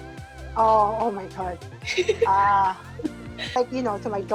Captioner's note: laughs